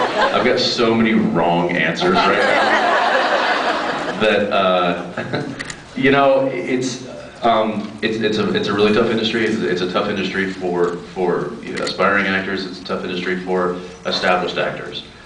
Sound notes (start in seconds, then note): 0.0 laughs; 2.0 laughs